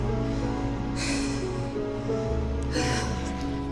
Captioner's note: exhales heavily